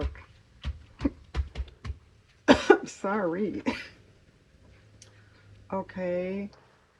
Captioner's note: coughs